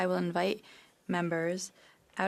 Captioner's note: speaking French